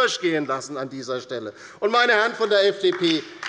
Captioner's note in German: Beifall bei der LINKEN